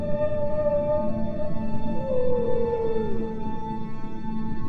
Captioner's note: whale calling